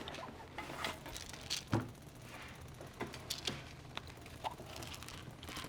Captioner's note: pills rattling over rattling gunfire from video game